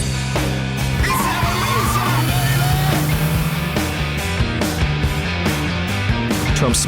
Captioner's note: digital beeping; car tires burnout